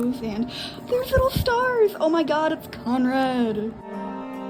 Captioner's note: gasp